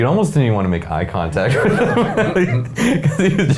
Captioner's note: men laughing